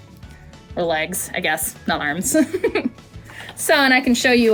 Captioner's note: chuckles